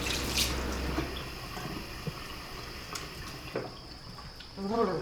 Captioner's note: water sloshing